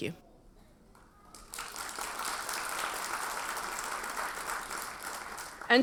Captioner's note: audience applauds